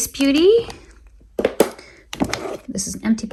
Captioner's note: item thudding